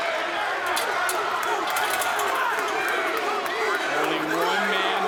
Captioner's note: crowd barking